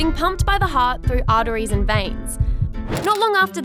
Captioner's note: heartbeat